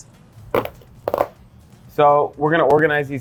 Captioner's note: bones breaking